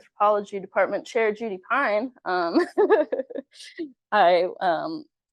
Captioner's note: chuckles